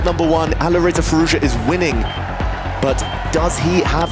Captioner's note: timer beeping